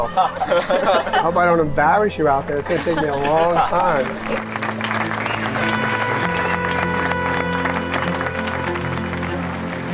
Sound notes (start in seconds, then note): 4.2 cheering